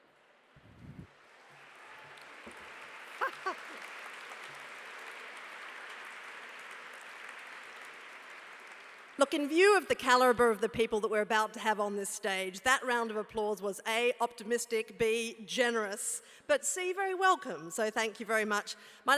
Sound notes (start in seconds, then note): 1.1 applause; 3.2 laugh